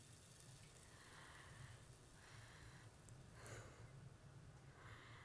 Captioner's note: Ellie breathes uneasily